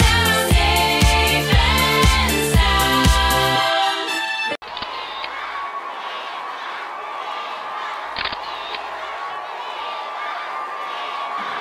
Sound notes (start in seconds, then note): 4.6 crowd; 4.6 crowd cheering